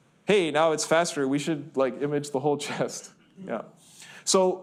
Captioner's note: laughs